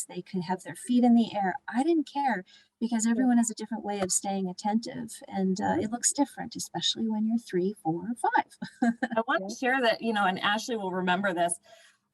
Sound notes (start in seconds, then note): 8.6 laughter